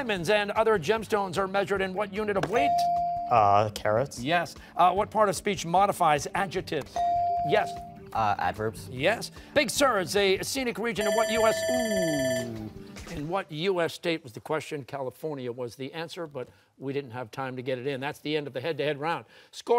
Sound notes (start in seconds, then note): 11.0 bell ringing